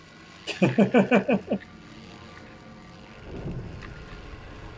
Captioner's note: chuckles